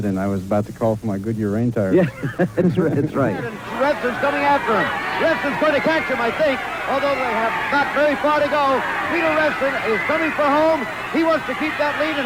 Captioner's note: applause